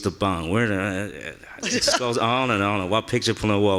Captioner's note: laughing